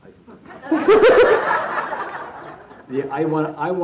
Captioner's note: audience laughing